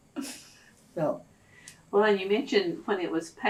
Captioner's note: laughs